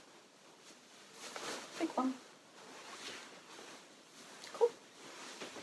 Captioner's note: fabric rustling